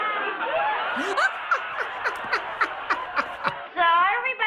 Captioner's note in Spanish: La audiencia del estudio riéndose; se ríe